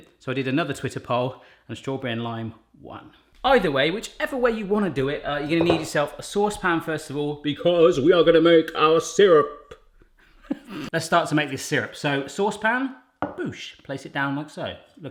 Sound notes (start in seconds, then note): 10.2 laughs